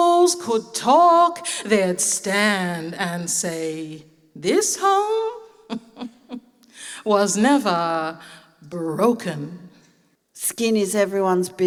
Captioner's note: laughs